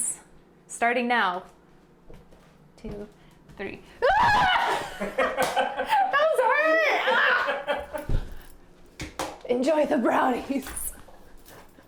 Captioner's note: screams in terror